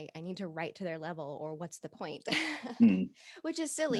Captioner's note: laughs